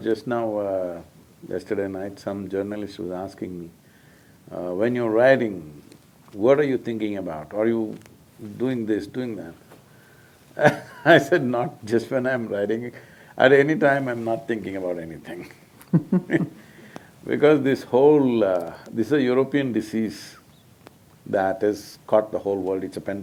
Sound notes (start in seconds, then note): 10.1 laughs; 15.8 both laugh